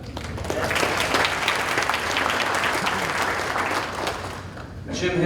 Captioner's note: audience applauding